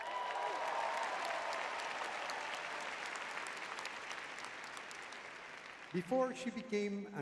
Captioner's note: audience cheering